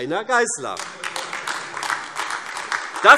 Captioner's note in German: Heiterkeit und Beifall AfD